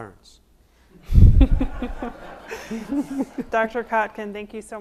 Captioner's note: audience laughs